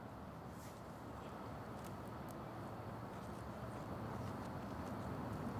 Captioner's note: faint traffic noise